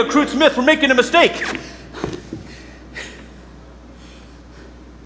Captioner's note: panting